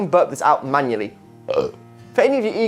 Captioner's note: burps